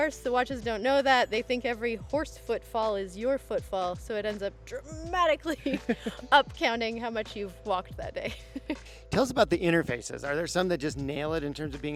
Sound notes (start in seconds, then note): 8.3 laughing